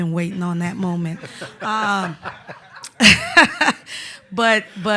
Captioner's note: laughter